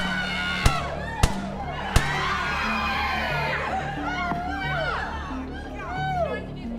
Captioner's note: people screaming and shouting; people screaming; gunshots popping